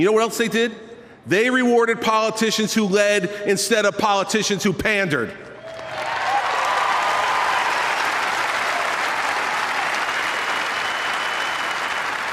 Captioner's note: applause